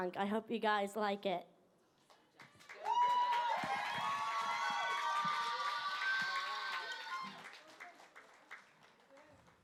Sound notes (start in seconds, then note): 2.0 applause